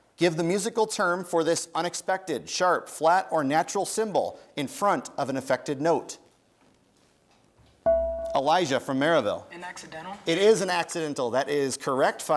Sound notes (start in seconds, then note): 7.8 bell rings